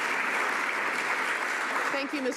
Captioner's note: some Applause